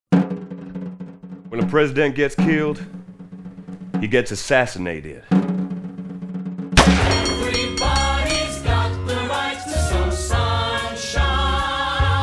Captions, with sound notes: when a President gets killed... he gets assassinated [drumroll] [gunshot] everybody's got the right to some sunshine